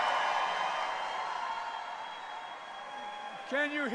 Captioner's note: applause